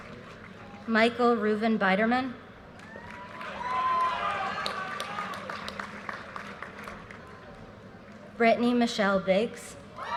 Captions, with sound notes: Michael Ruben Biderman. (audience cheers and applause) Brittany Michelle Biggs.